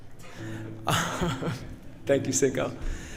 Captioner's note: laughs